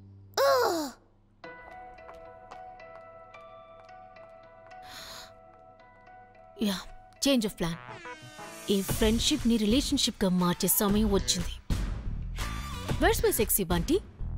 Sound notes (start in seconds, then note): 2.0 footsteps